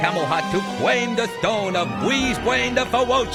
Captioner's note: none